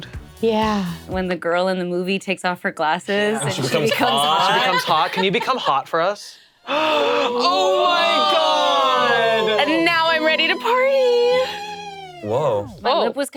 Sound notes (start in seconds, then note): 6.6 group gasping